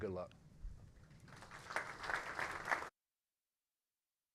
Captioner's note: applause